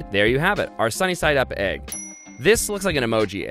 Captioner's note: dings